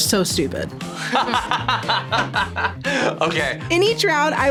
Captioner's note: both laugh